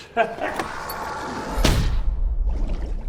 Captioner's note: thud